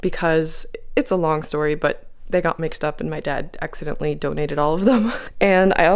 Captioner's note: laugh